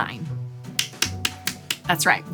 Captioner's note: claps